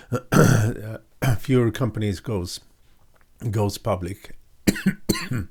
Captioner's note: clearing throat